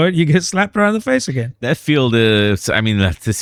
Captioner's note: uh